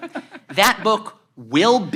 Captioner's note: laugh